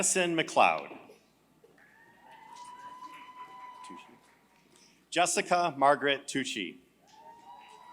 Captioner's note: applause; applause